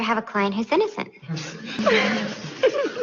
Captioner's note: laughter